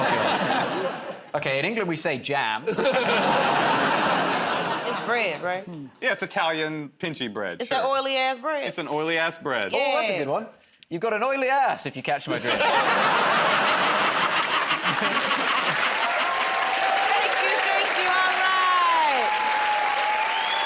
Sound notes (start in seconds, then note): 2.6 laughter; 12.3 laughter; 15.9 cheers and applause